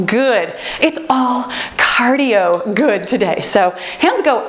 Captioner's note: timer beeps